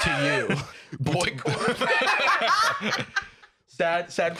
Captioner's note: all laughing; laughing